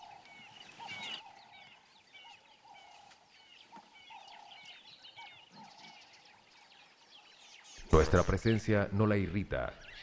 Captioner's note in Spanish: sonidos selváticos